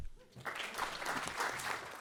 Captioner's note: audience applauds